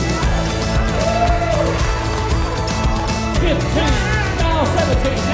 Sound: upbeat music; crowd cheering; auctioneering

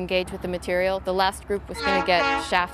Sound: train horn blowing

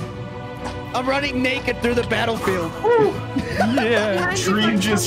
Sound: laughs

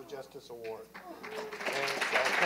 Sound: applause

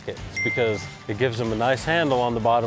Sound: arrow dings

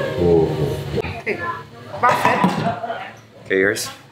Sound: speaking in Italian

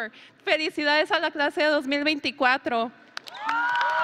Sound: speaks in foreign language; audience and graduates cheering

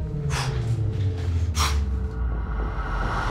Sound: exhales sharply

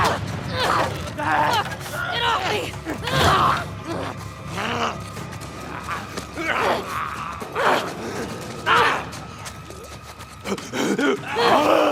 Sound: fighting sound

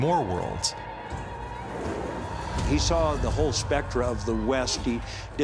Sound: war cries

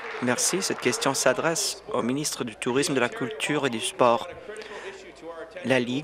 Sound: applause

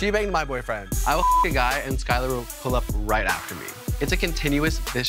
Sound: beep

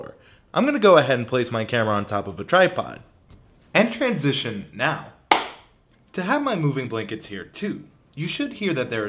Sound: clap

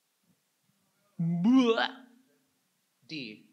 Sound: imitates puking

